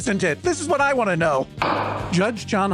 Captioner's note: sound of gavel